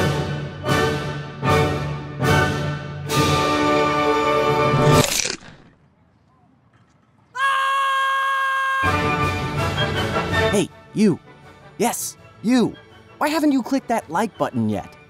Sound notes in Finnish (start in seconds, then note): 5.6 Hiljaisuus; 7.2 Huutaa